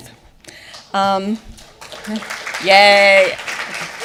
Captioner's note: audience applauding